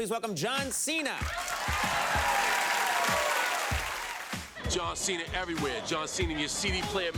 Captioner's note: applause